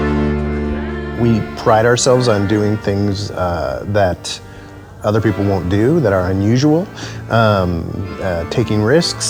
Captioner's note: narrating